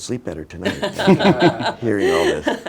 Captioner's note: laughing